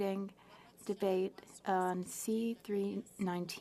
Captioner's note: speaking French